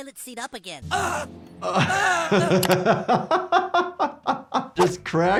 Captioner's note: Clyde's mom groans; Jordan laughs